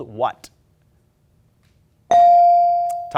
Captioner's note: ding chimes